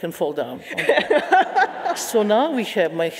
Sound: audience laughing

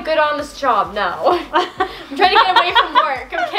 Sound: laughs

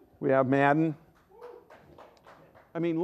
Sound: some applause

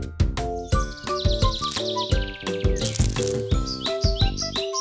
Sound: birds chirping

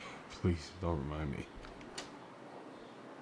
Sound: none

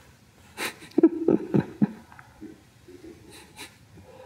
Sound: Eckhart laughing

